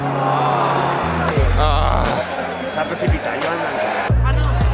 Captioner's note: sigh of disappointment